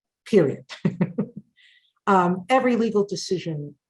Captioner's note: chuckles